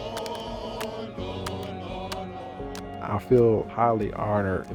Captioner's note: reenactors chanting